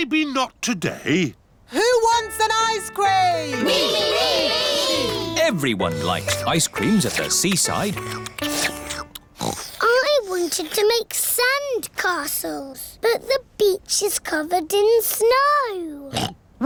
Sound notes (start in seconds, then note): 7.9 slurping; 9.3 oinks